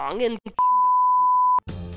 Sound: beep

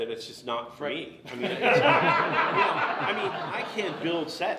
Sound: everyone laughs

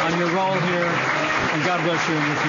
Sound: applause

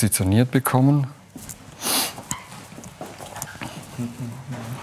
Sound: he sniffs

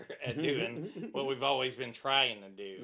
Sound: chuckling

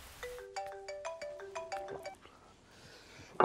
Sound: cell phone ringing

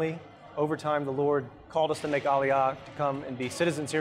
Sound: speaks Hebrew

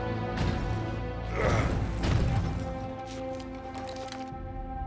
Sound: grunts with pain

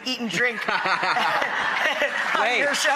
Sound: laugh

